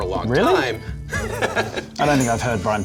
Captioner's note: laughs